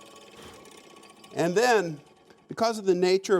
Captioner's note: whirring slows to a stop